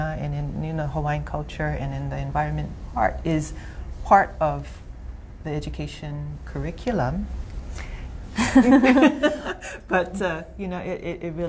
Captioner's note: laughter